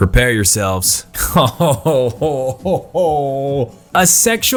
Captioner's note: laughs